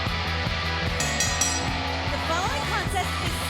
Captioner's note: bell ringing